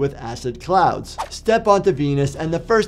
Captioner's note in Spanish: transición silbante